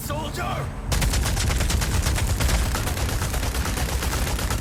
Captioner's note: guns firing